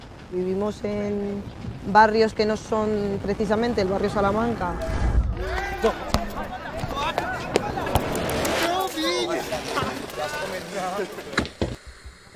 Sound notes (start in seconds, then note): 8.6 speaking and laughing